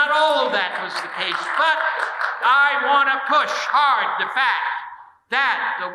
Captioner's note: audience applauding